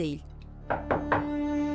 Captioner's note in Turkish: Kapı vurma sesi